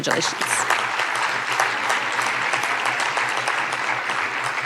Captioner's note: audience applauding